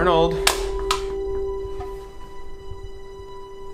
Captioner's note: sound of La Croix can getting stepped on